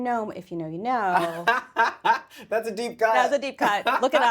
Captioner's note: laughs